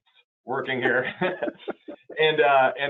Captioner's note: laughing